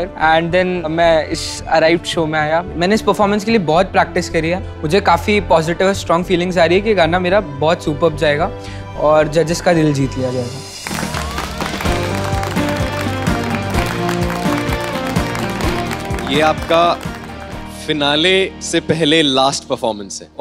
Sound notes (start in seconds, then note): 10.8 all applauding; 12.4 theme music playing